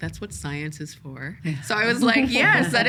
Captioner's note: laughing